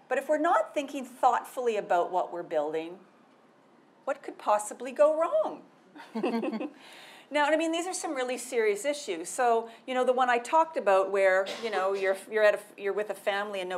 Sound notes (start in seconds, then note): 6.0 laughing